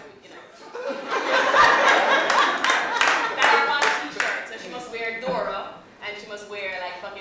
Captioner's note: laughter